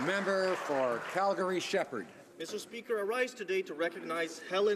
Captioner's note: some Applause